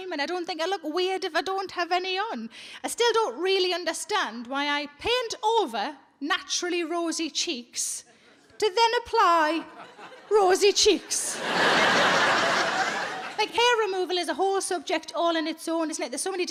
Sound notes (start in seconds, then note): 11.0 audience laughs